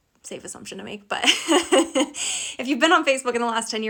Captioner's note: laughing